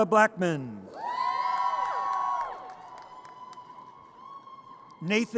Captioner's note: audience cheers